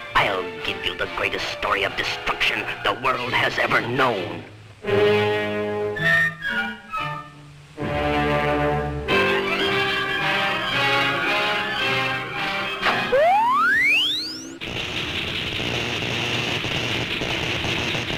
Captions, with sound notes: I'll give you the greatest story of destruction the world has ever known. (dramatic music) (machine rings) (electricity zaps)